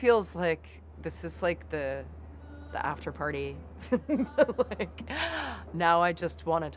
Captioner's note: laughs